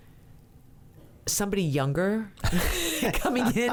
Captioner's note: laughs